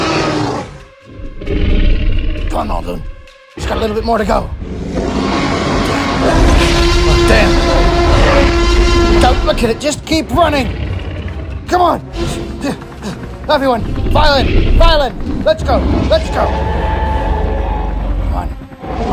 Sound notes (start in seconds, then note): 4.6 T-Rex Roars